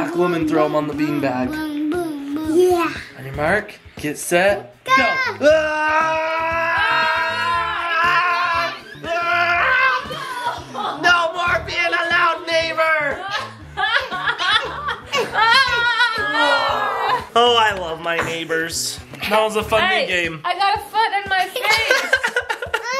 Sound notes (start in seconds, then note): 6.3 dad yelling playfully; 13.0 family laughing; 21.5 dad laughing